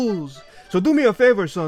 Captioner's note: inhales